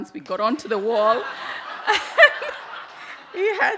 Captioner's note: audience laugh